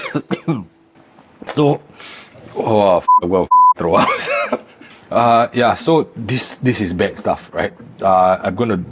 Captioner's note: beep